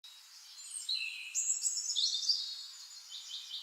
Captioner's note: birds chirping